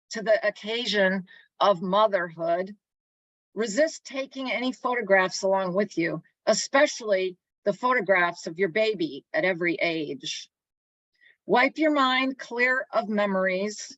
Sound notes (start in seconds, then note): none